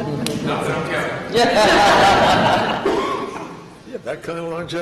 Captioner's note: laughter